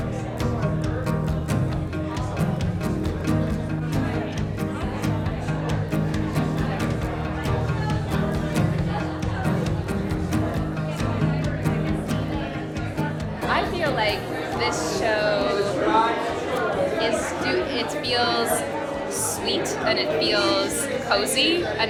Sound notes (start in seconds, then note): 0.2 upbeat music; 3.4 visitors chatting